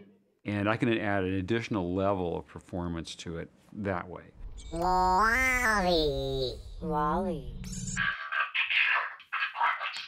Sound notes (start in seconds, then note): 4.4 modulating; 7.8 voice chattering mechanically